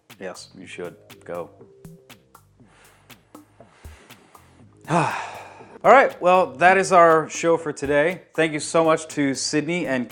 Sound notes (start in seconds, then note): 3.4 drunk sigh